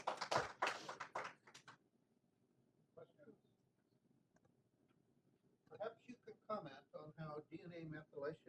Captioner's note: applause